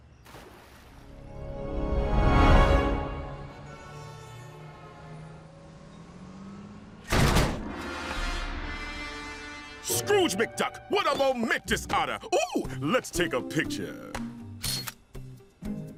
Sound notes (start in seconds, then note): 2.7 car horns blaring; 14.6 camera shutters click